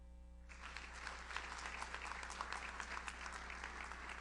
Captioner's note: audience applauds